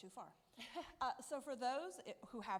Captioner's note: chuckles